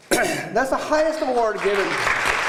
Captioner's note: applause